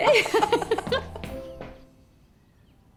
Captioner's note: laughing